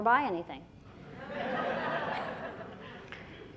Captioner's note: laughter